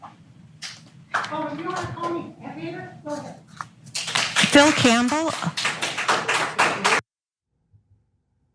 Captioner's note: applause